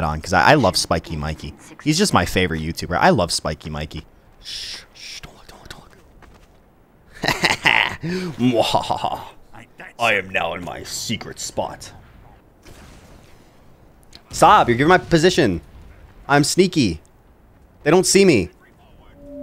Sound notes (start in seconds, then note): 7.2 laughing; 12.6 guns firing; 19.0 comical tooting